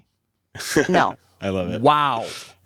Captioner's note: laughs